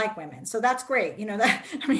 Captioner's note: laughs